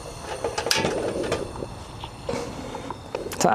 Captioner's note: clicking